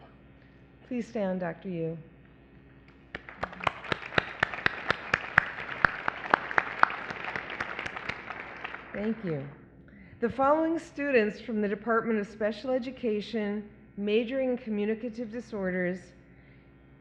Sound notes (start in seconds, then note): 6.8 applause